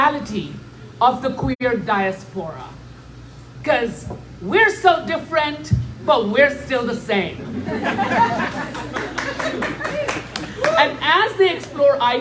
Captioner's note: laughter